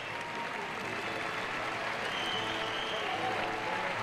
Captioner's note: crowd cheers